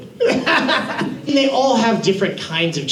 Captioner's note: laughs